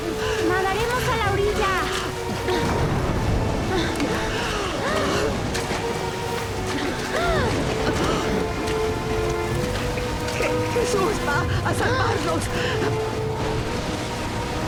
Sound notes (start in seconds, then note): 3.6 yells